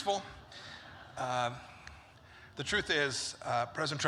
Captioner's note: laughter